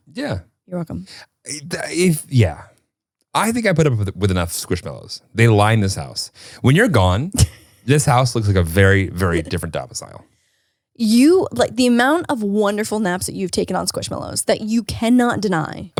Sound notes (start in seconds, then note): 7.3 laughs softly